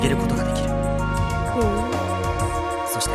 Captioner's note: impressed hum